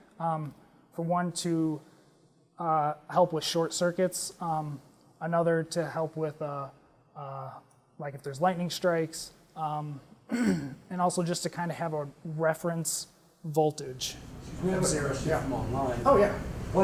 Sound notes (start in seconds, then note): 10.2 cough